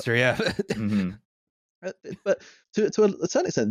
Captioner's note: laughter